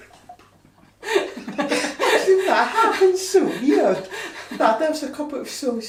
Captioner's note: all laugh